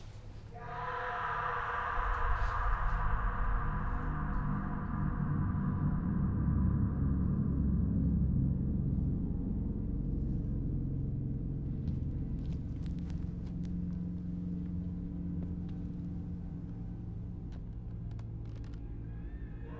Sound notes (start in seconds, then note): 0.6 patient screaming; 3.6 slow suspenseful music